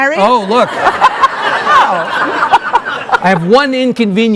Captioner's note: laughing